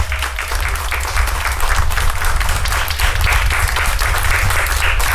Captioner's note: applause